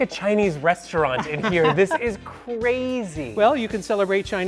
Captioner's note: laughs